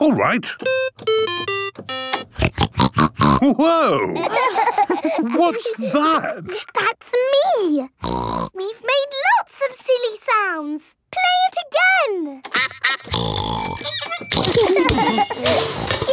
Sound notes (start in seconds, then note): 0.6 playing theme song; 2.3 snorting; 4.1 laughter; 8.0 snorting; 12.5 giggling